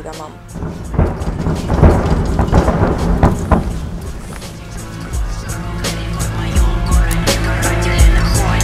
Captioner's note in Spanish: Explosiones consecutivas y cercanas